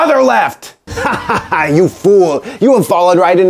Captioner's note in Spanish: Risas